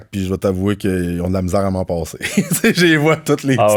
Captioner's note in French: rire